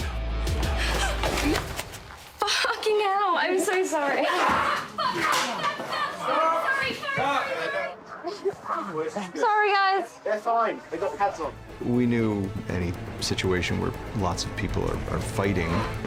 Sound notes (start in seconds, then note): 0.6 williams gasps; 3.7 laughter; 4.4 growling